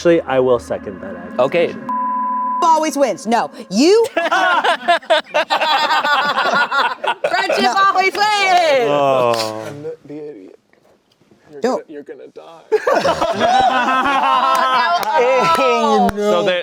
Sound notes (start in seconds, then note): 1.6 beep; 4.0 everyone laughing; 12.7 everyone laughing